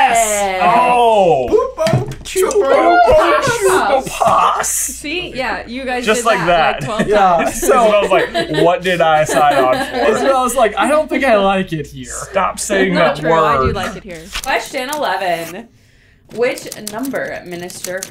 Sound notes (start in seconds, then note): 1.5 entire team in varying Jim Dale accents; 9.7 laughter